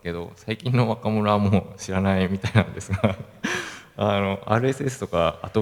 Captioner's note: laugh